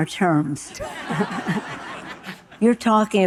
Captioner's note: audience laughing